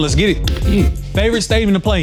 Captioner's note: digital beeps from game sounding